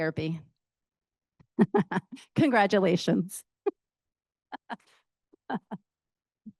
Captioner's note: laughs